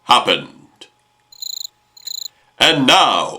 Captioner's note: cricket